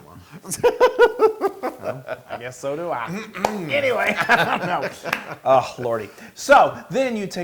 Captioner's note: laugh